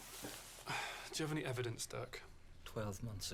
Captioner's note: sighs